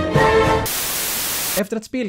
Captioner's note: white noise